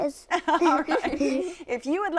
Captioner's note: laughter